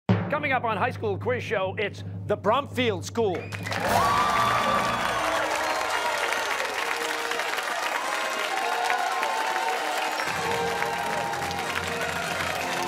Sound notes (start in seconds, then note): 3.4 cheers and applause; 4.3 fanfare